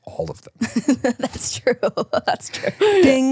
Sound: chuckles

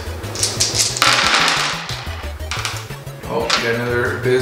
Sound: dice rolling

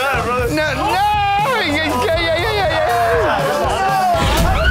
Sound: wails

